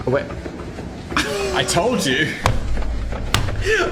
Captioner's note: Dan laughs